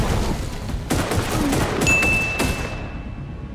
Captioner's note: bell dings; gun shoots